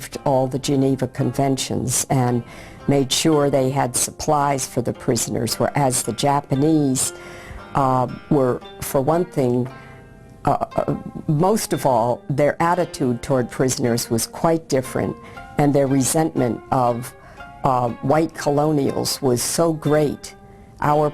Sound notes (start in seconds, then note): none